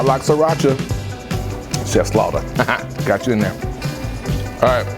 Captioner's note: laughs